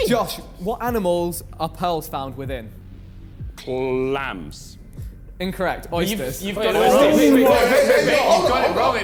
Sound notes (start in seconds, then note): 5.8 men chattering